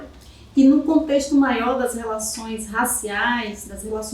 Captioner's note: speaking portuguese